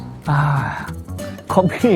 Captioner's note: sighs